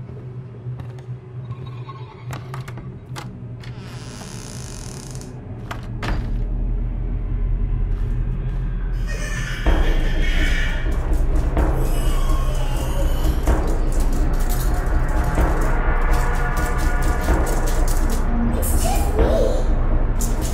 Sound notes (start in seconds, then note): 3.6 door moans; 8.6 giggles; 10.8 flurry of footsteps